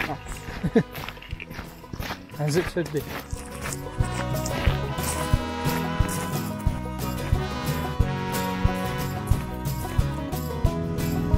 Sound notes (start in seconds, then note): 0.4 chuckles